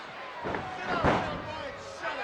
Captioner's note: body thuds